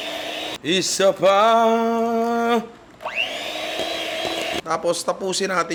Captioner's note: whirring sound